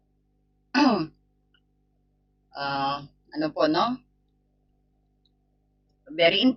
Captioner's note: clears throat